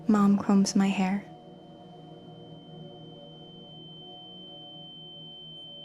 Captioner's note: high-pitch ringing